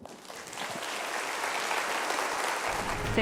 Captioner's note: applause